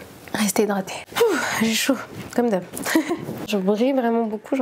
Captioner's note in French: rires